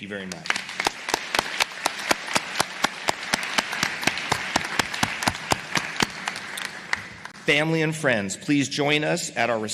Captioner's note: applause